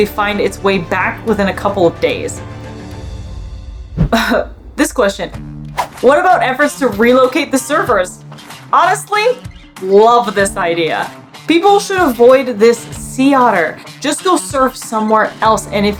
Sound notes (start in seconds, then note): 2.5 background music; 4.1 chuckles